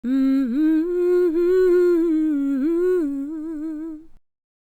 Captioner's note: intro humming